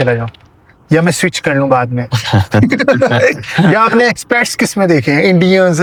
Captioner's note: laughs